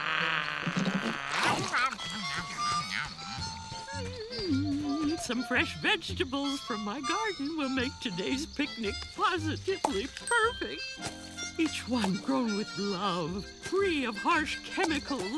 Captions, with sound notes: [humming] Some fresh vegetables from my garden will make today's picnic positively perfect. Each one grown with love, free of harsh chemicals,